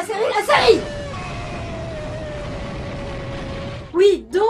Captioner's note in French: boum